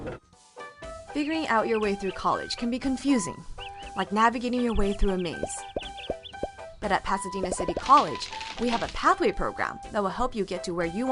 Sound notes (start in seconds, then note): 0.1 birds chirping; 3.1 bubble popping; 7.4 bubble popping and crackling